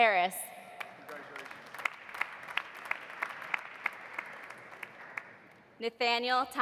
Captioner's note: audience applauding